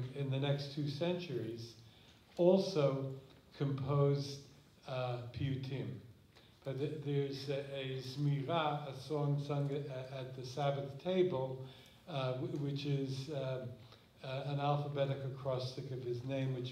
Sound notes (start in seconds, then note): 7.7 non-english